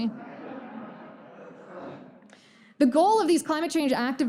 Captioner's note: audience laughter